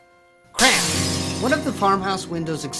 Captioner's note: glass shattering